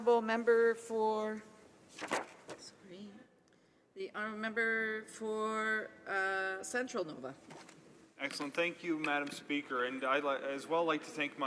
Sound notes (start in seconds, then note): 1.9 speaking in french